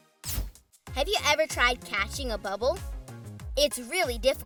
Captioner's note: air blowing